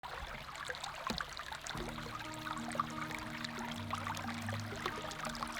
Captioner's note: gentle music; spring water running